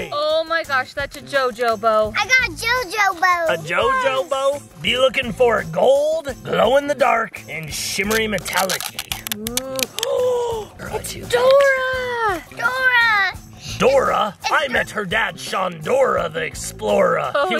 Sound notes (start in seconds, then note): 9.9 gasps